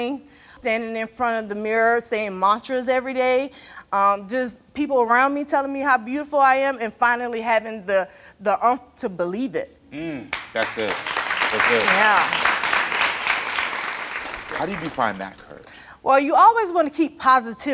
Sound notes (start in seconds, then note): 11.9 audience applauds